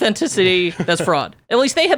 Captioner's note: laughs